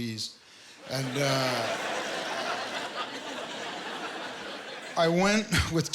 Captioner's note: laughter